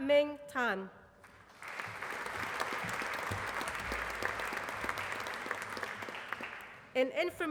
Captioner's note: applause